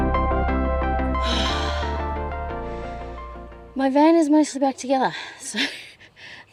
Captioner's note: the music is faded out; exhales deeply; laughing